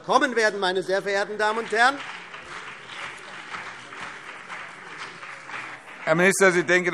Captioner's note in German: Beifall BÜNDNIS 90/DIE GRÜNEN und vereinzelt CDU